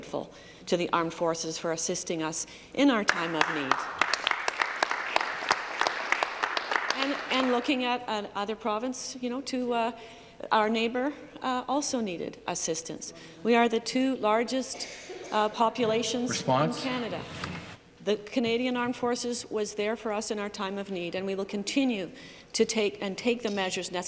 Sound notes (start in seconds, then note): 7.3 applause